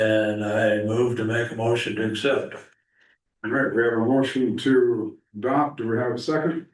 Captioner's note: clears throat